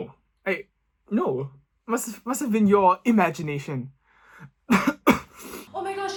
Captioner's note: coughs